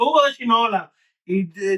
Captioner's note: speaking In Foreign Language